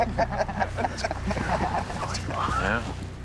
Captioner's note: crow laugh